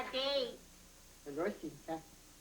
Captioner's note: speaking native language